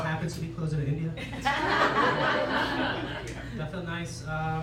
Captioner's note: laughter